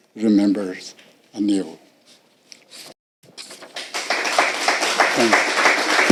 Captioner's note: applauding